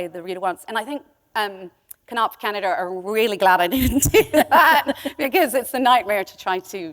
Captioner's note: chuckle